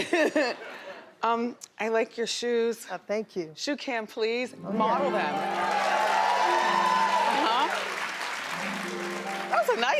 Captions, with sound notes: (laughing) I like your shoes. Oh, thank you. Shoe cam please, model them. (audience cheering)